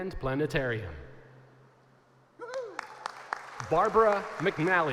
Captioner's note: applause